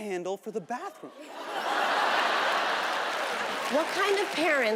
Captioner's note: audience laughing